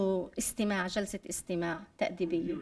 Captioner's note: speaking arabic